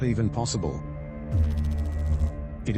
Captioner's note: electrical noise